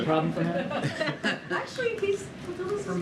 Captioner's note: laughter